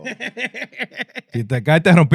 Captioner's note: laughing